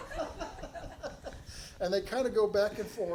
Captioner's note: audience laughing